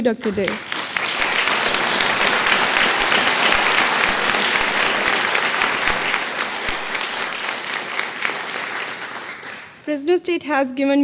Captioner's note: applause